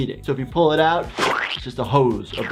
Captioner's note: blood squelching